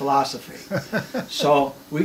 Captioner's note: laughs